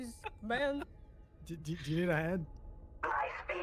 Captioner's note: laughs